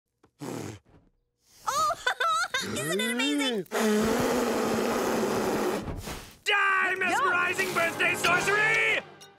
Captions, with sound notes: [Tina laughs] Isn't it amazing? Die, mesmerizing birthday sorcery!